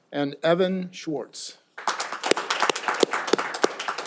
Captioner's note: all applauding